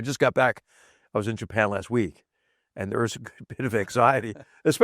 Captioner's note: laugh